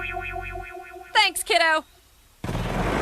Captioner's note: engine roars